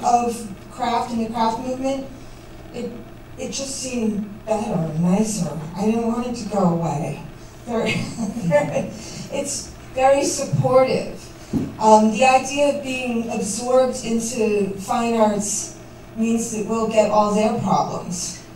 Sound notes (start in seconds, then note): 7.7 laughs